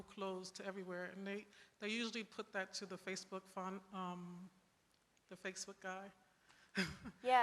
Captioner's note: laughs